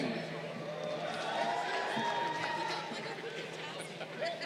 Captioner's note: crowd cheering